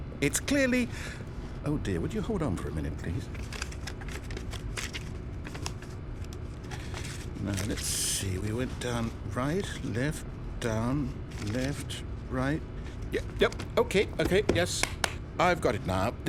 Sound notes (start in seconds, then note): 3.2 pages turning; 14.7 clap clap